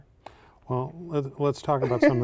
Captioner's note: laughter